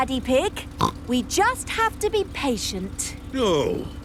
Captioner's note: snorts